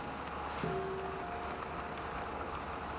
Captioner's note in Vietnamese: chuông